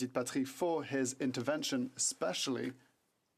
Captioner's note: speaking French